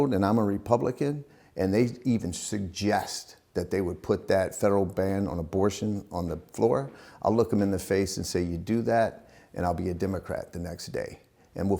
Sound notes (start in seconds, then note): none